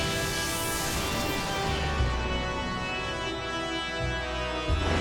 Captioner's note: thunder rumbling; dark music continues